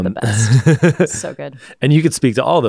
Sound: laughs

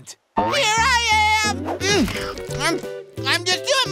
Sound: scarfing

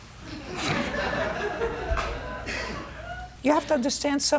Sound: laughter

